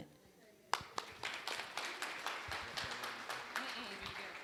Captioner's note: applause